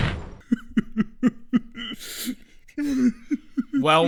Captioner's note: sobbing